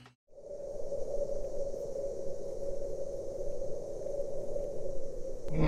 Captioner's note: scary sounds